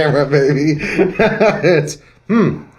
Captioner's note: laughs